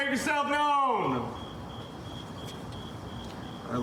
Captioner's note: crickets chirping